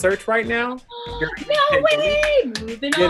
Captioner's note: gasps